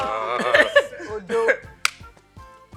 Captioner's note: laughs